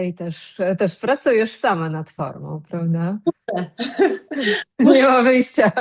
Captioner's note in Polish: śmiech